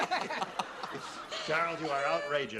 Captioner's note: laughter